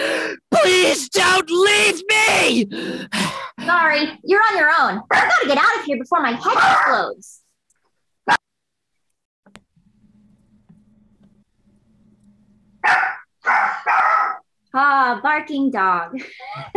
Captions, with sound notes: - Please don't leave me! (panting) - Sorry, you're on your own. I gotta get get out of here before my head explodes. (dog barking) Oh, barking dog.